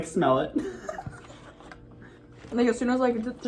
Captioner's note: both laugh